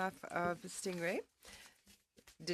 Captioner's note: speaking French